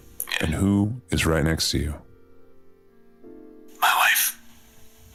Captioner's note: hushed